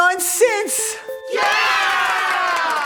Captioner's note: cheering and applause